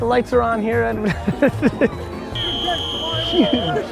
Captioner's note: laughs; whistle blows